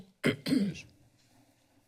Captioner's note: clears throat